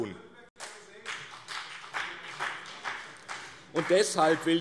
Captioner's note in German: Beifall BÜNDNIS 90/DIE GRÜNEN